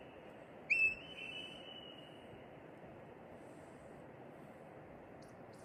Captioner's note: marmot whistle